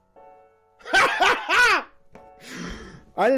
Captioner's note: laughs like a maniac again